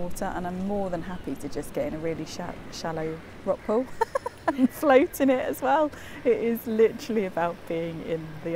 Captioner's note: laughs